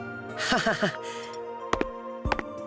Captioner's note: awkward laugh